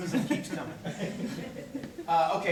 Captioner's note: corporate laughter